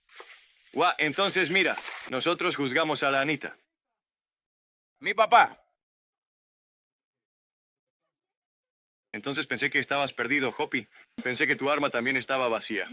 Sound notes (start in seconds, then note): 0.7 in spanish; 6.7 in spanish